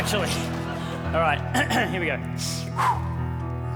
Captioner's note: clears throat